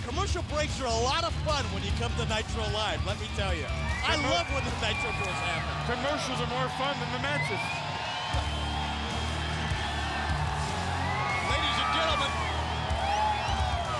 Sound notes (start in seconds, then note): 7.8 audience cheering; 7.8 upbeat music